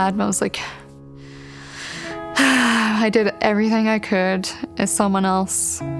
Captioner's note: sighs